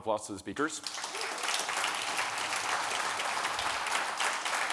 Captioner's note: audience applauding